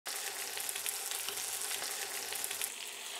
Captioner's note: sizzling sound